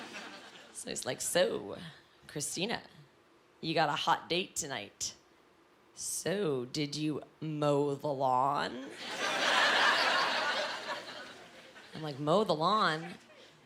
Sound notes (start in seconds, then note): 8.7 laughing